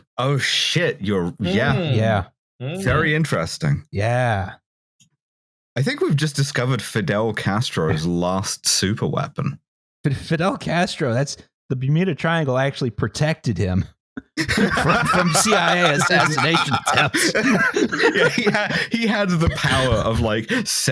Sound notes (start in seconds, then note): 14.3 laughter